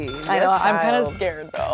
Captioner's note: cash register dings